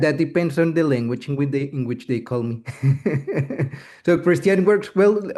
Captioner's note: laughs